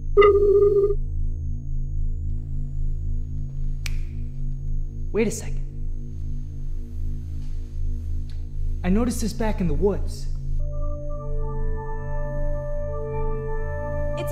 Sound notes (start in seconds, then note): 0.0 musical note ringing; 3.8 snapping; 10.5 light synthesized music